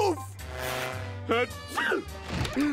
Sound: sneezing

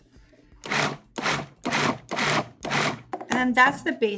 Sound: repeated grinding

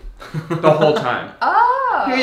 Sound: laughing

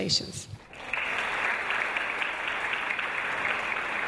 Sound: audience applause

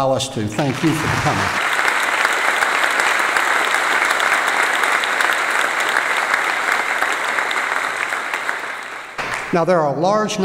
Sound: applause

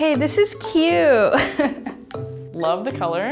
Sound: laughing

